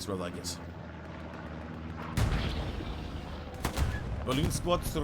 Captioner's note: gunshots